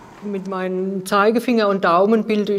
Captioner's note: none